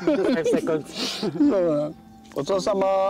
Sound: laughing

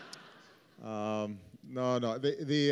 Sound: laughter

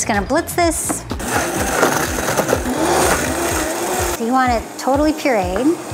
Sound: blender whirring

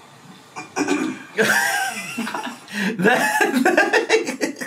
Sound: laughs

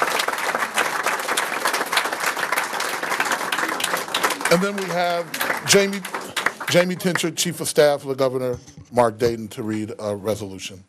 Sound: applause

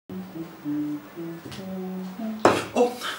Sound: humming

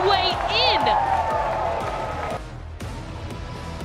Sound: cheering

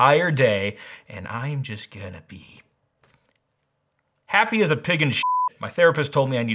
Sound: beep

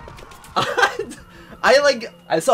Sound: uncontrollable laughter

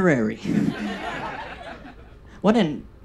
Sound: audience laughs

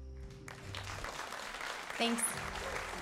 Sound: audience applauding

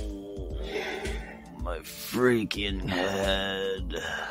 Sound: groans

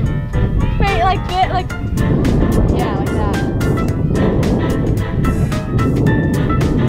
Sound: wind

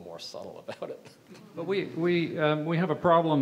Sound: audience chuckles

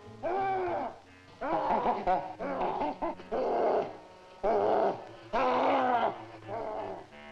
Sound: grunting continues; gorilla chittering

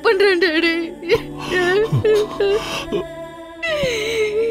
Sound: crying

